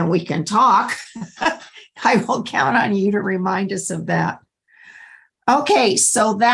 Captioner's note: laughter